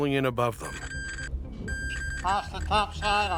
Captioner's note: metal detector beeping